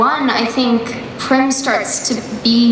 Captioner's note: none